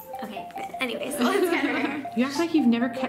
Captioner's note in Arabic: ضحكات